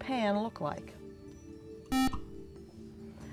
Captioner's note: buzzer